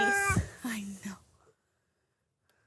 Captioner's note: baby cries